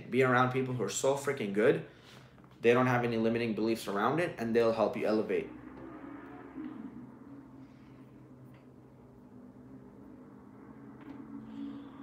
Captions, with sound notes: Be around people who are so frickin' good, they don't have any limiting beliefs around it, and they'll help you elevate. (engine revving)